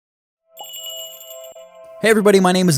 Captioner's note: magical jingle